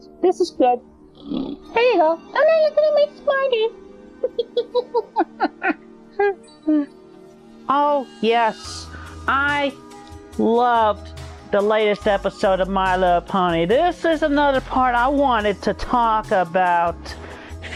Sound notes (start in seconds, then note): 1.1 blows raspberry; 6.9 laughter